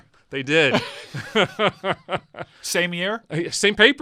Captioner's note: men laugh